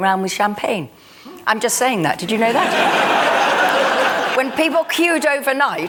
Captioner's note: laughter